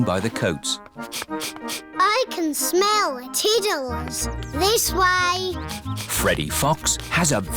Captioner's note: sniffs